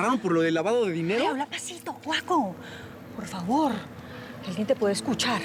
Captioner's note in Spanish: en voz baja